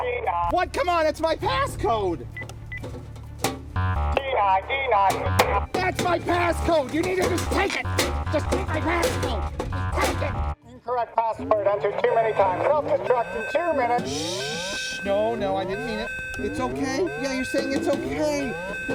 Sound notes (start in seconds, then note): 2.3 beeping